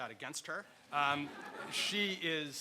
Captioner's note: audience laughter